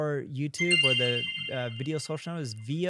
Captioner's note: bell dings